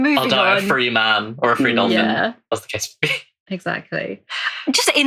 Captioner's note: laughing